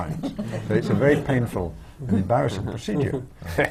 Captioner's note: laughter